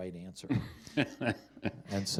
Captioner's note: chuckling